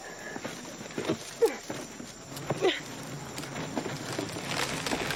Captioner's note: grunting; cracking